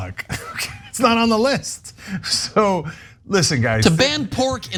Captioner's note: laugh